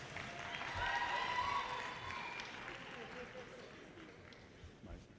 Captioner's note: audience cheers and applause